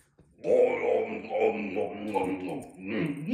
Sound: gulping

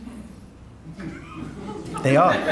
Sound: audience laughing

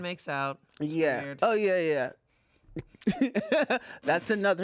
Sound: laughs

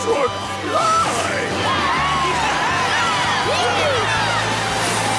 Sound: cheering

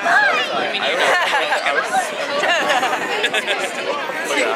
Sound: laughing

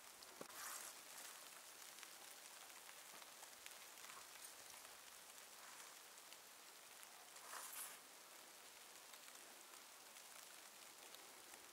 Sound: snow flurry, light crackling, jingling

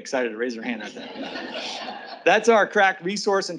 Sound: learners laugh

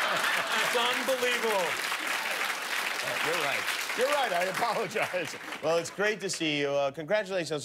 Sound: laughter

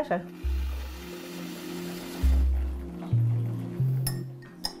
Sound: running water from a tap

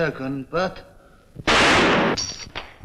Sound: gun Shot

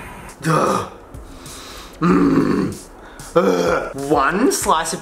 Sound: grunting

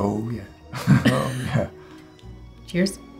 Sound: laughs

